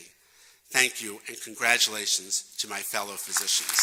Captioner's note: applause